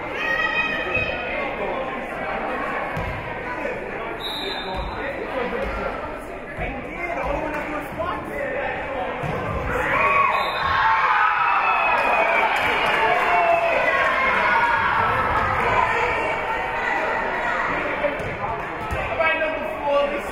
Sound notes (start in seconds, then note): 0.1 spectators shouting encouragements; 4.2 whistle being blown; 10.2 whistle being blown; 10.9 spectators cheering and applauding; 15.6 spectators shouting encouragements